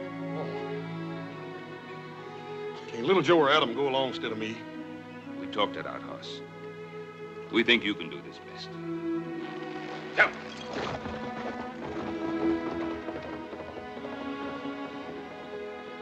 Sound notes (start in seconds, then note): 10.1 Ben grunts, horse snorts; 12.3 horse galloping into distance